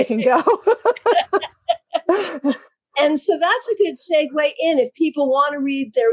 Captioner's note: laugh